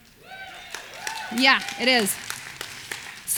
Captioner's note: audience cheers